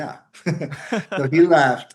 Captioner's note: laughs